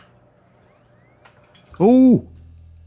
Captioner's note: hard disk whirrs back to life